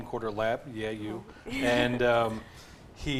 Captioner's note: laughs